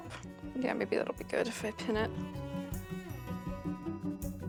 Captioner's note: laughs